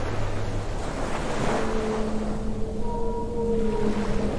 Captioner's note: waves lap